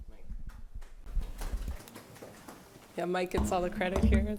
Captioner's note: applause